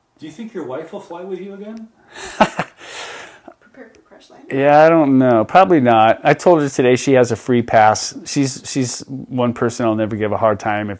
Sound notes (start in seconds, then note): 2.1 laughs